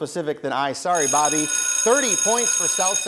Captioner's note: bell ringing